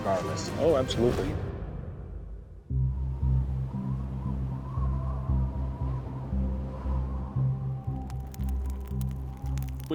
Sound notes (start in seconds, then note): 2.4 wind blowing; 7.8 flames crackling